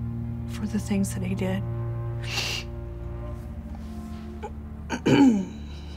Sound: sobs and clears throat

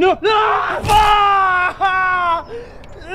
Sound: screaming; grunting

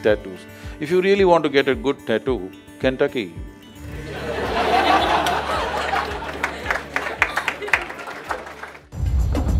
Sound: laughter/Applause

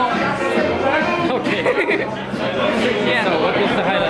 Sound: laughs

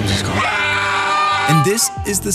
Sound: screaming

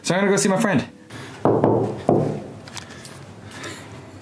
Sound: knocking

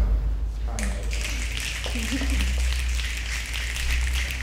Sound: snapping

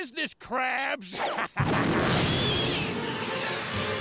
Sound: laughing

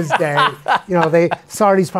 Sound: laughs

